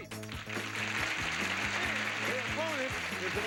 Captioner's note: audience applauding